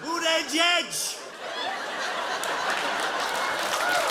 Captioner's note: cheers and applause